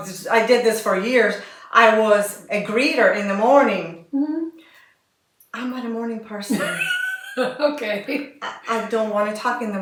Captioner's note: laughter